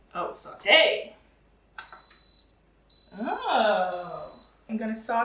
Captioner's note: instant pot beeps